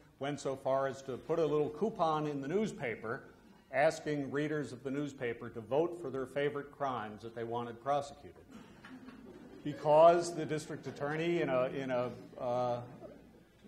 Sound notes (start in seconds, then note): 8.5 audience laughs